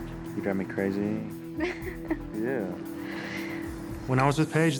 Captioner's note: laughs